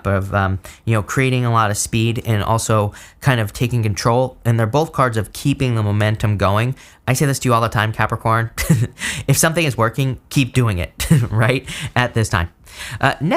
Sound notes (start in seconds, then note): 8.6 chuckles